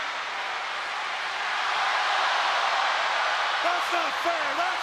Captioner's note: crowd cheering continues